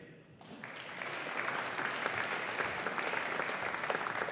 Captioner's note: audience applauding